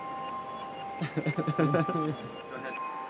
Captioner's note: laughter